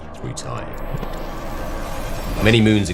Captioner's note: electric glitch